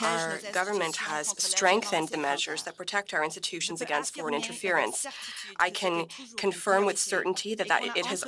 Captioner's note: speaking French